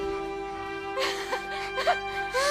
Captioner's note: laughs; moans